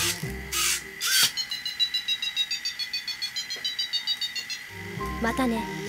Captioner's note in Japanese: 電子音